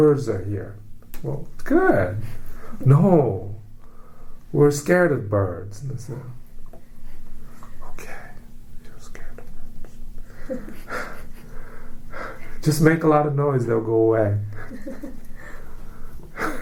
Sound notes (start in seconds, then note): 3.6 whispers; 10.4 laughs; 16.1 laughs